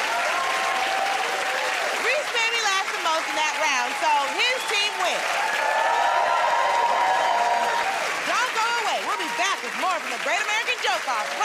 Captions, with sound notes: [ Cheers and applause ] Rhys made me laugh the most in that round, so his team wins. [ Cheers and applause ] Don't go away. We'll be back with more from "The Great American Joke Off"